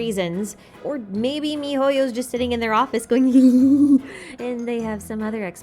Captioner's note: laugh